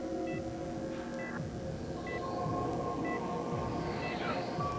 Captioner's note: monitor beeps